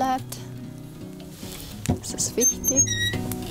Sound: oven door squeaks

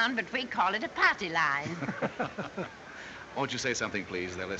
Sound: chuckling

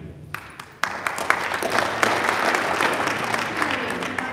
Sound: audience applauding

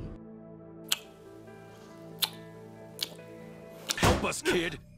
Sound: Abbachio kissing Giorno noises

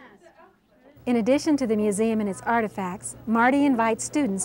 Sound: voiceover

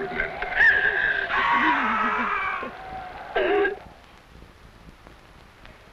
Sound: Yaqui man screaming

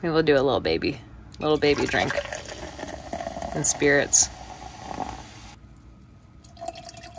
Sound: liquid pouring

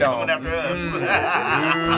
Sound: laughs

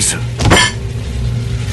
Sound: Jack hits table

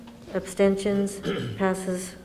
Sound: clears throat

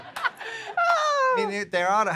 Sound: audience and abby laugh

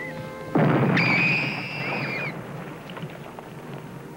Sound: explosion

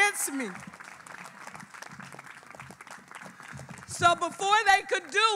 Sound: all clapping

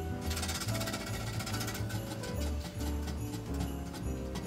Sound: wheel spinning

